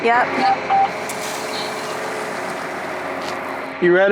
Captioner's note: sound of water spraying